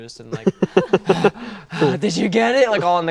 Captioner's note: Finn breathing heavily